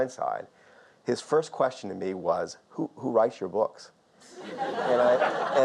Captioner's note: audience laughs